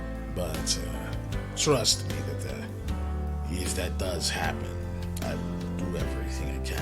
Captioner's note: none